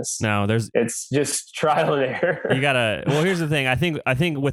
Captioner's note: laughs